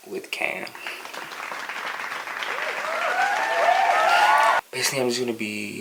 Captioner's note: applause